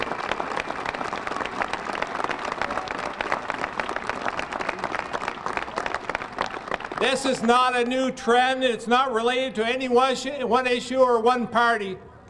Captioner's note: applause